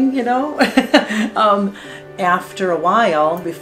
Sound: laughing

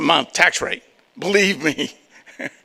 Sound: laughs

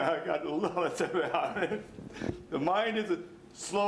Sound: stammers

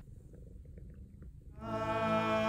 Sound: cat purring; men vocalizing music

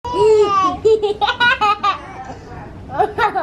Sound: child laughing

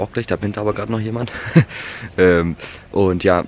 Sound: stupid laughter

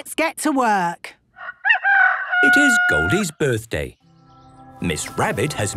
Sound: rooster crowing

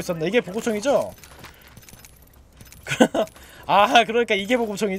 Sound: laughs

